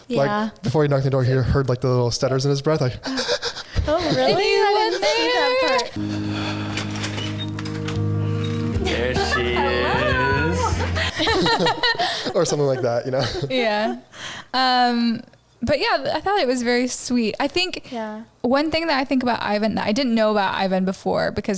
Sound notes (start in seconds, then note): 3.0 breathers heavily; 4.9 upbeat music; 11.1 laughing